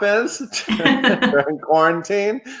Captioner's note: all laugh